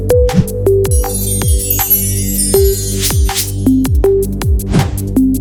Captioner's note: chimes ringing